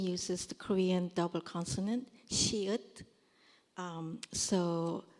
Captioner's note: korean